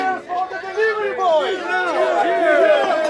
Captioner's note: cheering